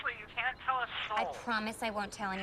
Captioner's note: speakerphone